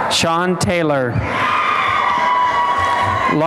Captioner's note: cheering and applause